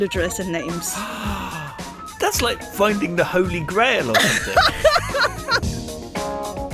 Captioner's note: gasps